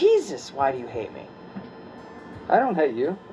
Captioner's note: fluorescent whirr fills the awkward silence